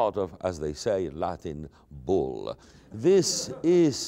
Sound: laughter

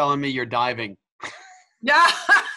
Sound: laugh

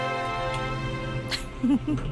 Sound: lift opens

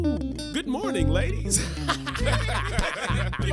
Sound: chuckling

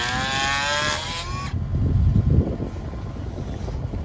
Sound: planer whirring

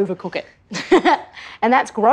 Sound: laughs

